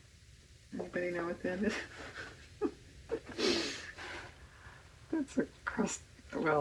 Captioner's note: laughs